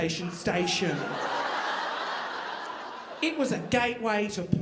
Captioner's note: audience laughing